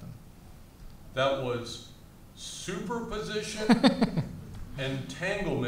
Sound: laughs

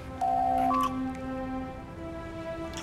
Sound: door Chime

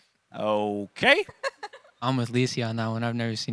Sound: laughing

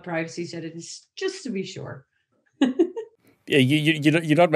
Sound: laughs

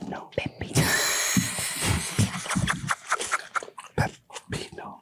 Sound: Eiza laughing

